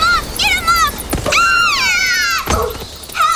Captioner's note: screaming